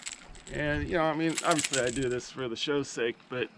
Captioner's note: fish splashing; tackle rattling